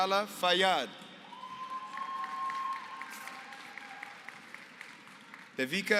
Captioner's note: applause